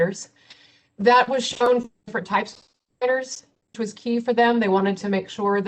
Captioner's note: audio distorts